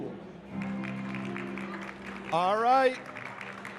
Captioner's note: audience clapping